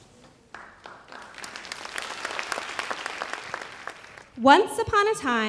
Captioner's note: audience applauds